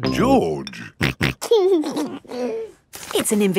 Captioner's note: snorting and giggling